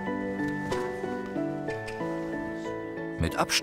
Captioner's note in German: Lockgeräusch